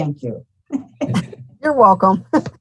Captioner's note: giggles